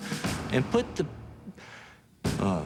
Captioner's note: deep inhale